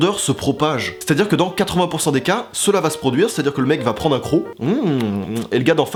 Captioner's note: eating noises